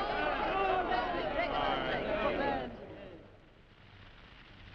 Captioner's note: crowd shouting; fire cracking